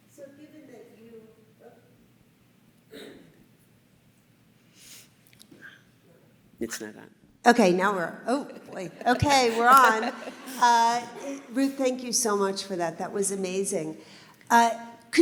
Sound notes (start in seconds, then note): 8.4 laughing